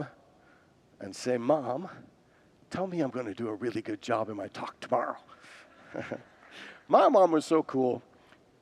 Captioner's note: congregants laugh